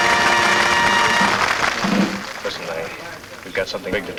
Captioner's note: patrons clap